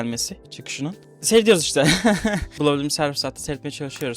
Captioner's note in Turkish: kahkaha